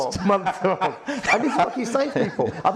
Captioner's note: both laughing